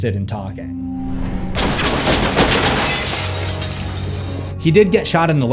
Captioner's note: shots Fired